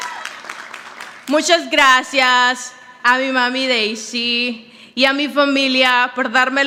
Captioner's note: audience applauding; speaks in foreign language